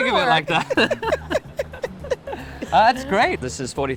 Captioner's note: both laughing